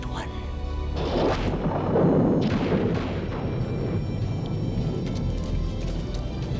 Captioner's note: thunder rumbling; lightning crashes